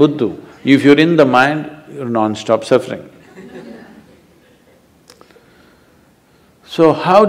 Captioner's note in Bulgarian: смехове